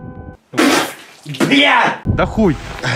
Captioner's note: spit